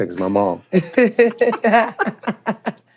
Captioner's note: both laughing